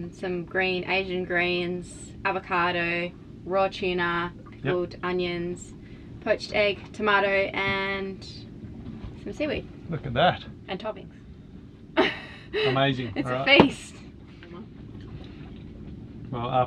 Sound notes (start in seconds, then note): 12.0 laughing